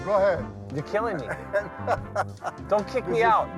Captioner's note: laughs